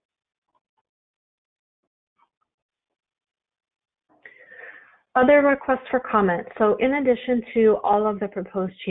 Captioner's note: silence